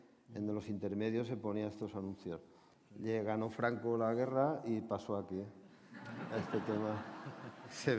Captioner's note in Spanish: Risas